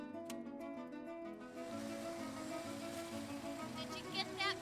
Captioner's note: sound of car pulling up